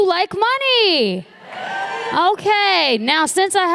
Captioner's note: applause